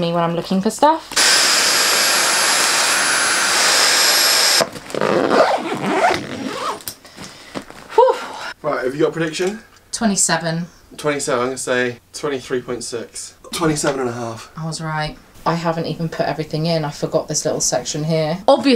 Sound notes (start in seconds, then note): 1.1 vacuum humming; 5.1 bag zipping